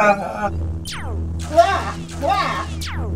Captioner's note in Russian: выстрел лазера; смеётся